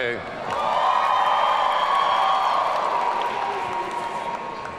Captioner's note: audience cheering